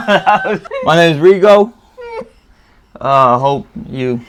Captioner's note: laugh; laughs